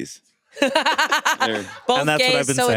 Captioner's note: laughs